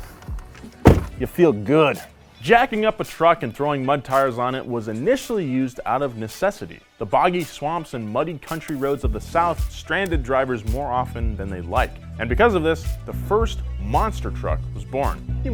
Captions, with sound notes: (clunk) you feel good. Jacking up a truck and throwing mud tires on it was initially used out of necessity. The boggy swamps and muddy country roads of the South stranded drivers more often than they'd like. And because of this, the first monster truck was born.